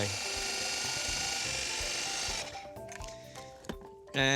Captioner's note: food processor mixing